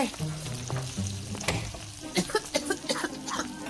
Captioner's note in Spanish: Continúa tosiendo